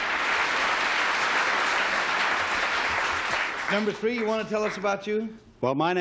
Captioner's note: applause